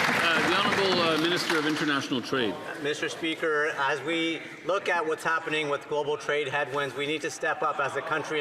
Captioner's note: some Applause